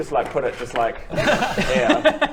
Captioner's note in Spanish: risas